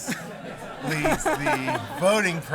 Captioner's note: laughter